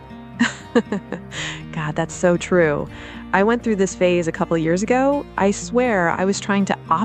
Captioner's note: laughs